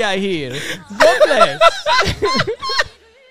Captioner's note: laughing